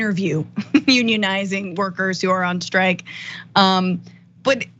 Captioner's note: laugh